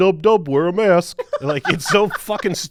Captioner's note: laughing